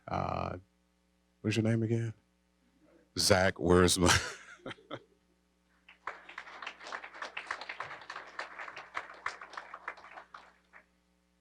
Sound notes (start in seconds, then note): 4.0 chuckling; 5.8 applause